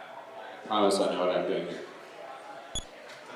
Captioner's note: none